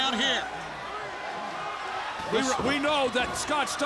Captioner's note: crowd cheering